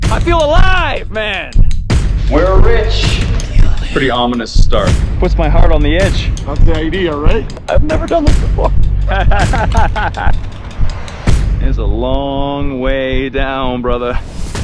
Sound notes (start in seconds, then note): 9.0 laughing